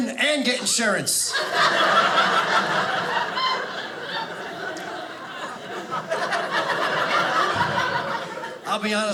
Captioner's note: audience laughing